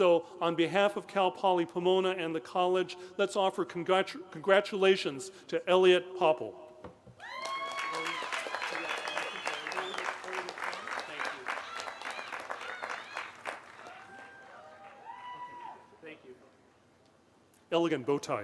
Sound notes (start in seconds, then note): 10.0 applause